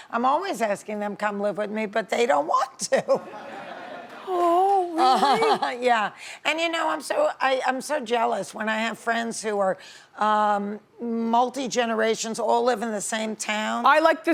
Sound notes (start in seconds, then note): 3.2 audience laughing; 3.2 laughs